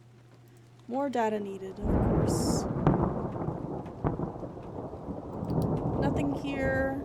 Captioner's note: thunder